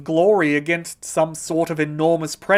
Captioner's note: none